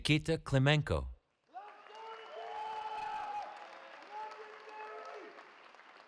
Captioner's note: cheering